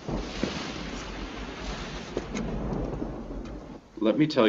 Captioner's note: thunder rumbling